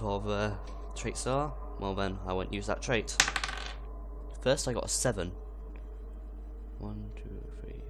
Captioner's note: rolls die